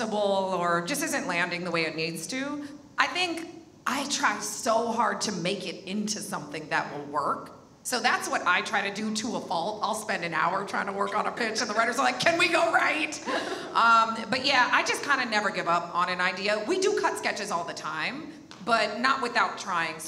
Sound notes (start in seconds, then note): none